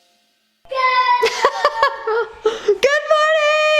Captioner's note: laughing